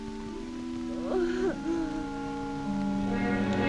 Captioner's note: mary sobbing